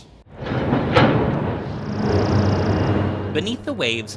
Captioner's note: machinery rattling